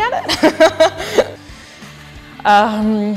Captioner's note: laughs